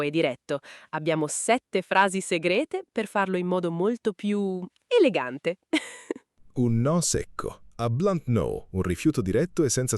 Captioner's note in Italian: risate